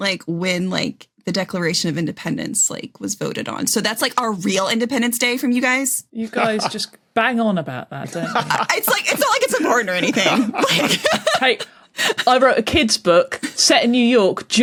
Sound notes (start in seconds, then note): 8.0 laughs